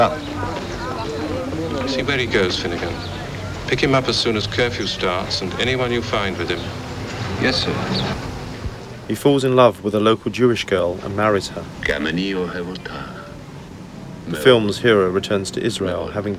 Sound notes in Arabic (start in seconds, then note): 0.1 رجل يتحدث بلغة أجنبية; 12.6 رجل يتحدث لغة أجنبية